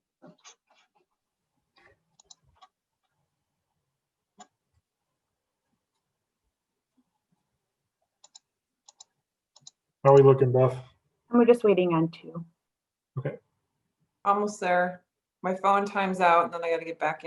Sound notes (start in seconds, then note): none